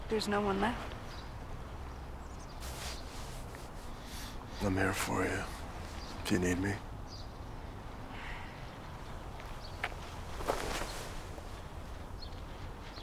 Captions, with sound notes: There's no one left. - I'm here for you if you need me. (sighs)